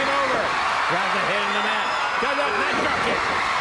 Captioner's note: crowd cheering